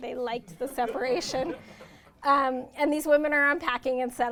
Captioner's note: audience laughter